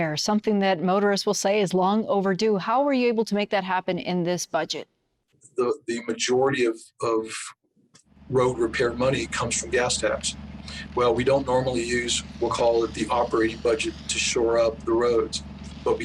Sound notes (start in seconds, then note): 8.7 machinery whirring; 12.4 rakes scraping